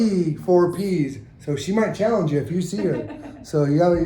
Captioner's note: chuckles